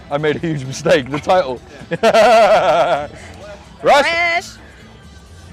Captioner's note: laughs